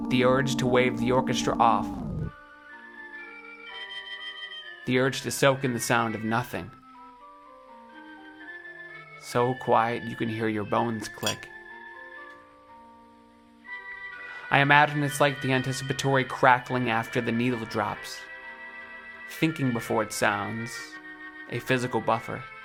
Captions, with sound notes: The urge to wave the orchestra off. (soft music) The urge to soak in the sound of nothing. (calming music) So quiet you can hear your bones click (metal click) I imagine it's like the anticipatory crackling after the needle drops. Thinking before it sounds; a physical buffer.